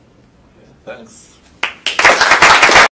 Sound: applause

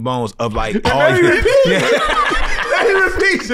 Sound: laughs

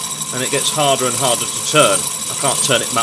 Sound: loud scraping/ringing noise

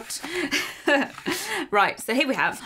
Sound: chuckles

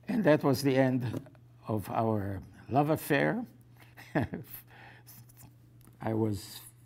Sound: laughs

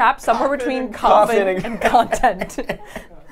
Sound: chuckles; laughs

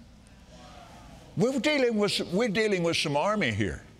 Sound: audience marveling

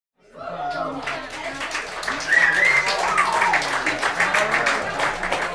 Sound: audience cheering and applauding

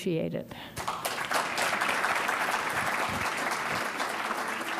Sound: audience applauds

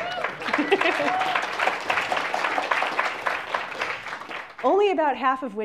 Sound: applause

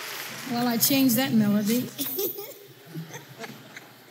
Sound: laughs

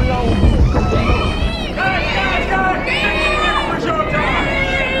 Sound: people yelling "vince"

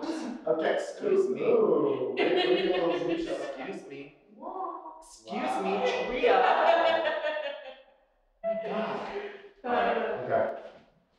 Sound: laughing

